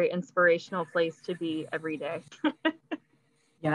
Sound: laughs

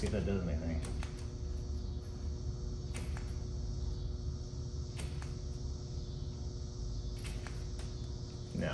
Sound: switch clicks

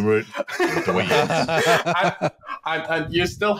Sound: laughter

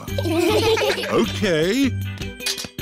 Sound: laughter

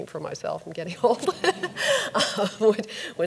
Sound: audience laughs

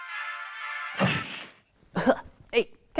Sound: triumphant music; cloud poofs; coughs

